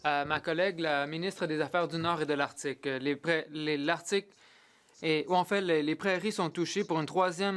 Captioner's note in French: voix de l'interprète